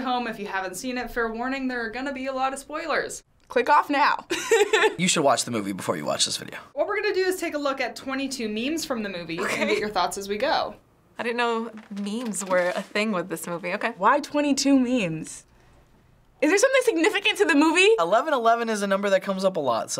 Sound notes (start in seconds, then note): 4.4 laughs